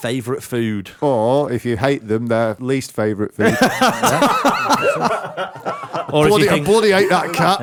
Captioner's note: laughter